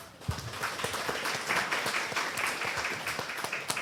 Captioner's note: audience applause